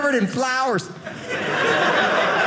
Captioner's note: audience laughing